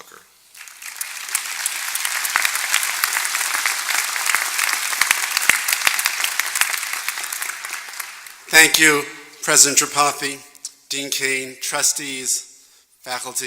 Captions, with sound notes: INTRODUCE DR. HOWARD ZUCKER. >> [APPLAUSE] >> THANK YOU, PRESIDENT TRIPATHI, DEAN CAIN, TRUSTEES,